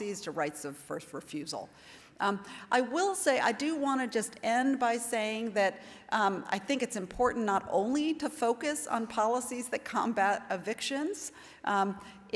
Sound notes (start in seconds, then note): none